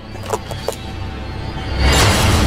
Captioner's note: bones cracking; dramatic music